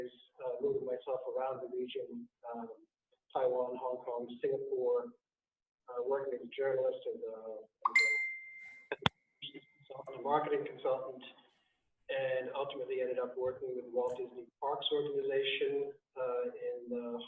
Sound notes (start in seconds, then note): 7.8 bell dings; 9.4 distorted audio